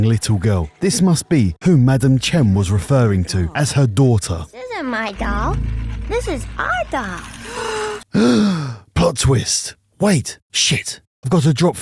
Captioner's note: gasp